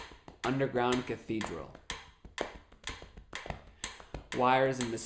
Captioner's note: tapping and ticking sound